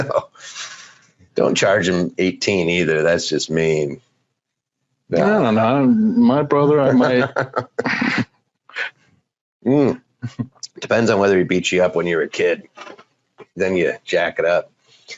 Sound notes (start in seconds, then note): 5.1 laughing; 6.9 both laughing